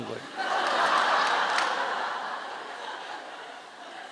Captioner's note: audience Laughter